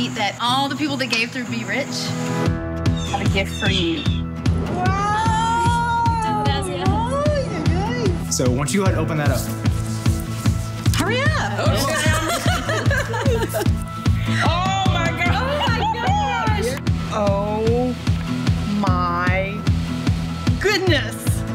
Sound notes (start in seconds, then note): 6.0 speaking in foreign language; 11.6 all laughing